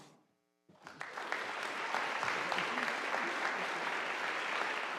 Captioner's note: audience applauding